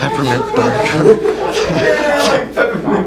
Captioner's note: laughter; cracking up